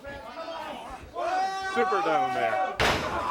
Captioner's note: crowd cheering